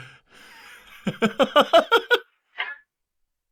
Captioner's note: laughs heartily